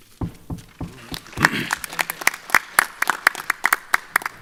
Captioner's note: applause